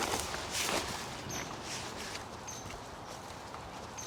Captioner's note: birds chirping